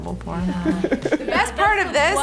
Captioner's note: Ben laughs